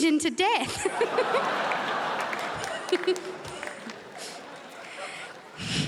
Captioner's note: crowd laughs